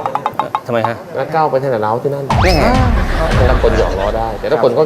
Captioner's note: laughter